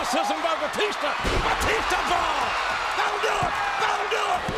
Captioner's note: audience cheers